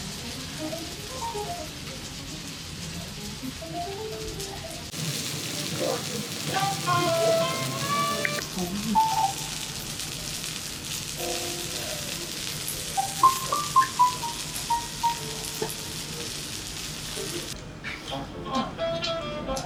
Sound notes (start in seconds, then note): 4.9 meat-grilling sound